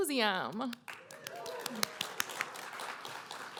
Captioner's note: applause